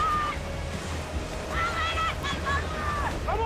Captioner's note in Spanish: Grita